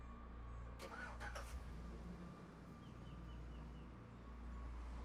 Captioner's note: engine cranks